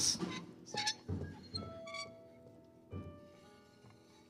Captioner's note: hook squeaking